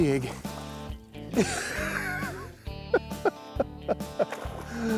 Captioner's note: laughs